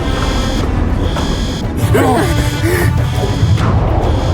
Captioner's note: suspenseful music; system beeping